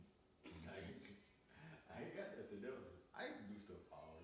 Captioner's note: laughing